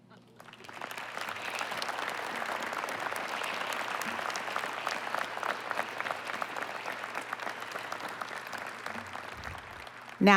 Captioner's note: applause